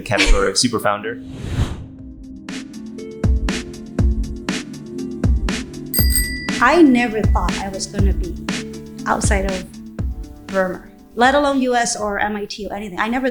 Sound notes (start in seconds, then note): 2.9 R&B music; 5.9 bicycle bell dinging